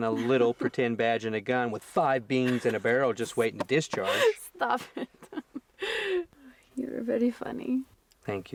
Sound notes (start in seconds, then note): 3.9 laughs